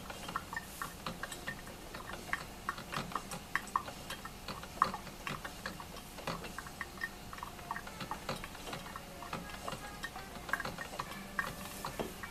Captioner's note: sound of coffee brewing